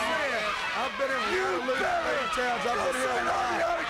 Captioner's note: both yelling